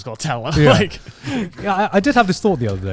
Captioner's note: laughing